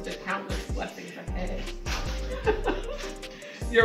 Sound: laughs

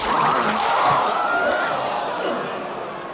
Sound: crowd gasping

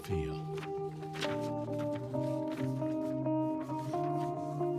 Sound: paper flapping

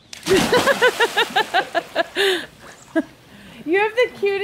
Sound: laughter

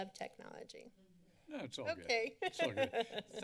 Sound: laughs

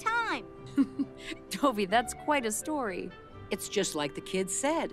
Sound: giggles

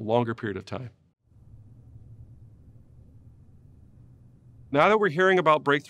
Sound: silence

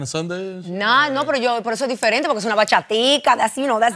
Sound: spanish

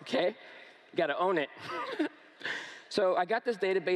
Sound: laughs

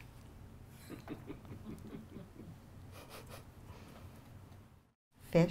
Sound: audience laughter

